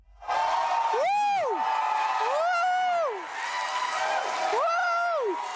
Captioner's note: applause and cheers